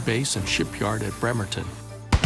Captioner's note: explosion